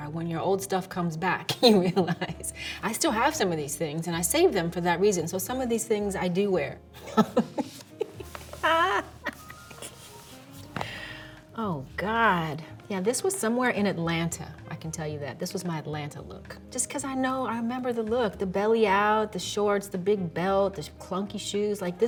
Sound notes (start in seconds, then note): 1.6 chuckles; 7.0 Halle laughs